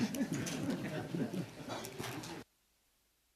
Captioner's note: laughter